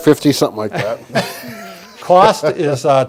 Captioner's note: laughter